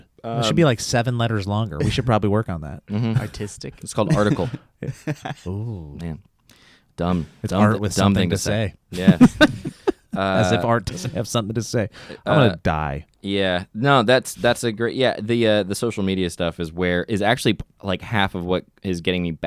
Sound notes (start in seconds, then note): 8.9 laughs